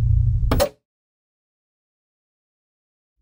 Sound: TV pops

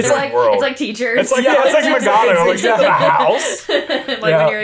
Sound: everyone laughs

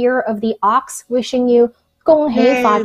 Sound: speaks in a foreign language

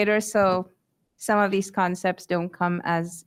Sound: none

